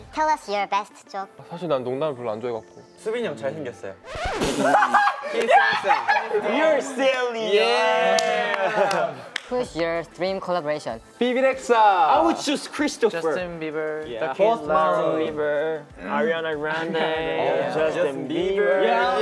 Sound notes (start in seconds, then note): 1.3 speaking Korean; 4.0 record scratch; 4.4 laughing loudly